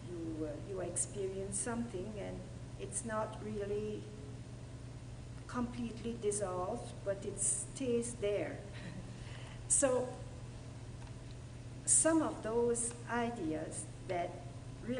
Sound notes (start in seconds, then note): 8.8 laughter